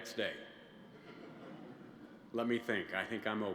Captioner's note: laughter